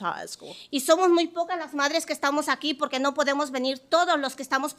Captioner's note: speaking Spanish